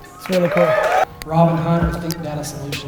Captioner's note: applause and cheers